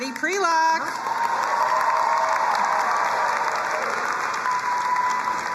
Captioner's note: crowd cheering and applauding